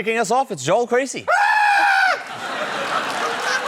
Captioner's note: screams; laughter